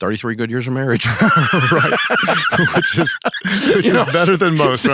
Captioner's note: both laugh